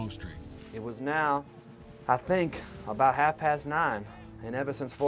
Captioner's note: voiceover